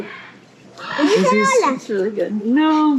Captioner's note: in Spanish